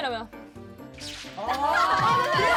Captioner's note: shooting laser